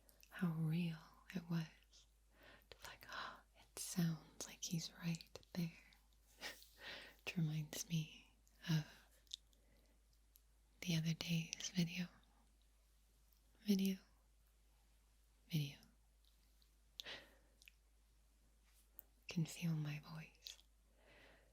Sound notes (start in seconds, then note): 3.0 gasp